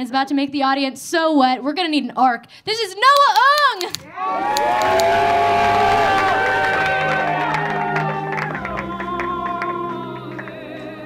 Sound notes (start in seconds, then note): 4.0 audience cheering; 4.3 audience clapping